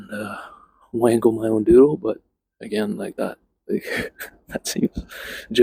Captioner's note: chuckles